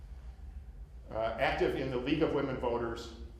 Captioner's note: none